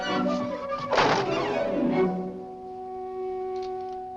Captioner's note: door slams shut